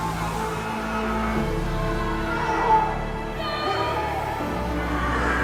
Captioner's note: people wailing